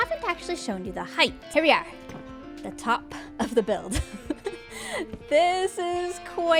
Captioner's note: laughs